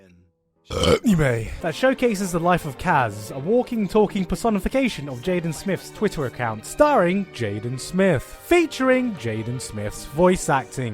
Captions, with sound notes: A[Burp]nime that showcases the life of Kaz. a walking, talking personification of Jaden Smith's Twitter account. Starring Jaden Smith. Featuring Jaden Smith's voice acting.